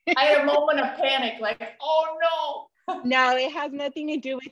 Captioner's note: laughter